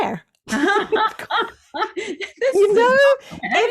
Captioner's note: both laugh